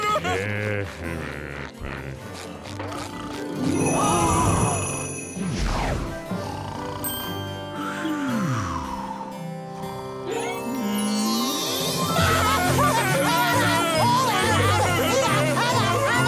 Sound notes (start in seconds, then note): 0.0 groaning; 2.9 all gasping; 3.6 christmas bells ringing; 6.3 snoring; 11.8 laughing, cheering